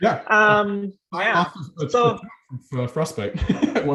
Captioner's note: audio distorting; chuckling